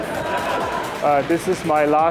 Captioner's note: laughter